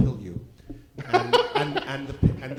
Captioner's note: laugh